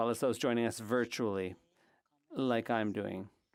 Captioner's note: speaking French